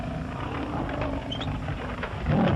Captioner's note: growling